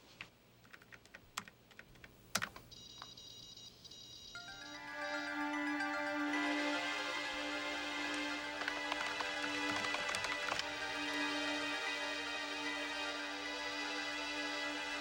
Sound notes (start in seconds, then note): 4.6 dramatic music; 8.4 keys clicking